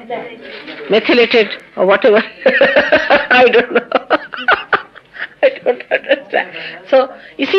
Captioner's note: laughs